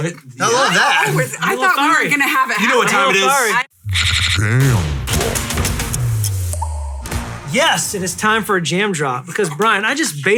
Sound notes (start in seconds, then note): 6.6 deep Voice